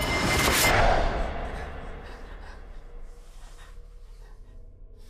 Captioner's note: monster rasping softly; soft ominous music; Heather breathing heavily; gentle tense music